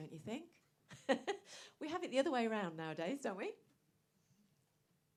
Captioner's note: laughs